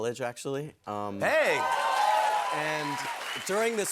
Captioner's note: cheers and applause